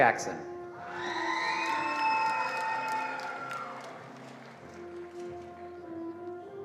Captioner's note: attendees cheering and applauding